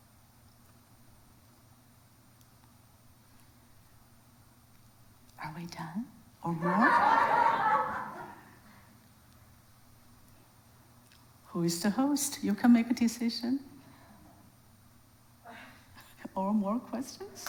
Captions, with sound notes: Are we done, or more? (audience laughs) Who is the host? You can make a decision, or more questions?